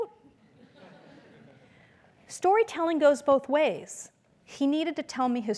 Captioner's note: laugh